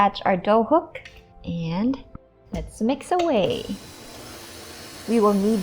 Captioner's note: mixer running